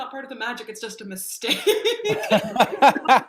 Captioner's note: laughs